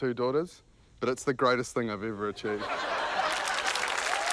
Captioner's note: laughter; applause, cheering